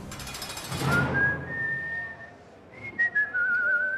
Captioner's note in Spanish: Silbido